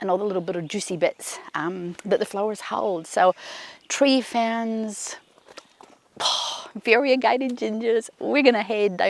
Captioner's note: exhales